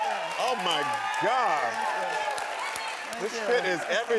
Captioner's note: audience cheering and clapping